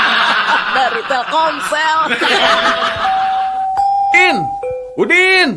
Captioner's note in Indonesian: tertawa